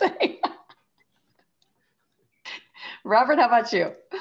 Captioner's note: laughing